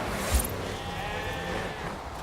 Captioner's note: sheep bleating